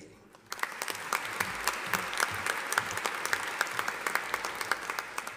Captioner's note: audience applauding